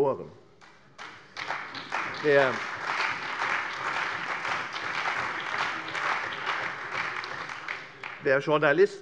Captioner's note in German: Beifall bei der CDU, dem BÜNDNIS 90/DIE GRÜNEN und der SPD